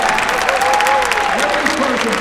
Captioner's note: applause